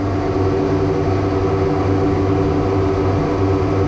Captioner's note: engines roaring